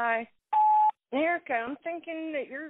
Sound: phone beeps

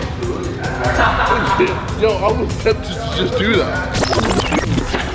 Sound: indistinct conversation

